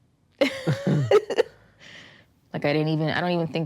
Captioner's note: laughs